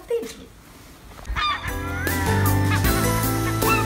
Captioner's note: birds